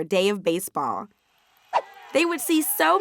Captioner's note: audience cheering